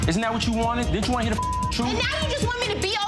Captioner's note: beep